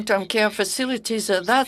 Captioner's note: speaking in French